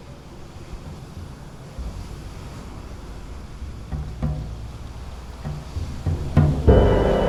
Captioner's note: waves crash amidst a deep wind; orchestral music plays